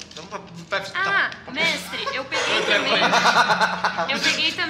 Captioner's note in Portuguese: Risadas